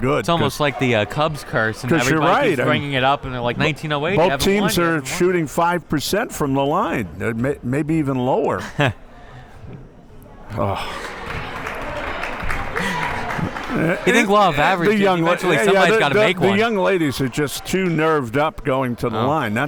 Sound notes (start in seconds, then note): 8.5 laughing; 10.5 crowd members clapping